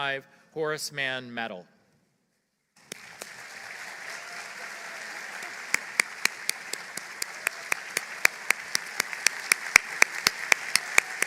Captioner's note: applause